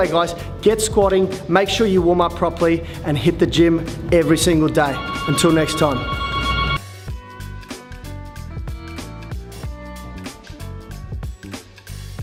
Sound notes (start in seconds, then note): 4.9 phone ringing; 7.0 upbeat music